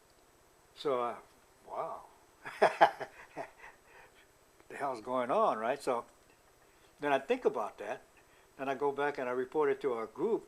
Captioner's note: laughter